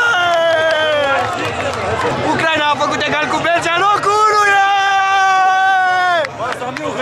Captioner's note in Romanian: Aplauze